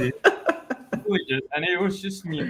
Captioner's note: others chuckling